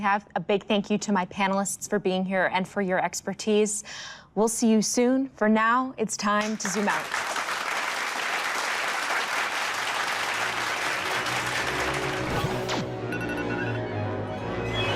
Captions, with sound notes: Well, that's all the time we have. A big thank you to my panelists for being here, and for your expertise. We'll see you soon. For now, it's time to zoom out. [applause] [dramatic music]